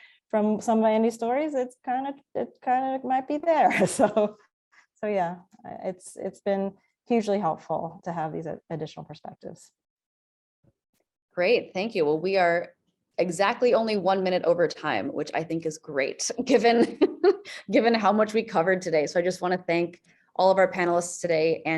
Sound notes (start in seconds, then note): 3.3 chuckles; 16.5 chuckles